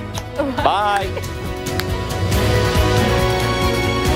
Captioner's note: laughter